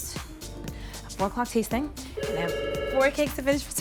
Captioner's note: phone rings